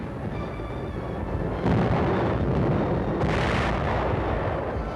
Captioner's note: dramatic music; booming